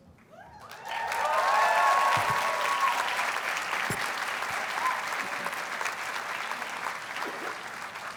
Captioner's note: audience applauds and cheers